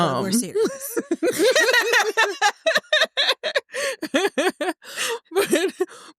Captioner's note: laughter